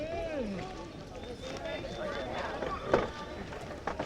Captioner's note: people chattering